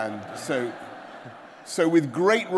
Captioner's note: laughter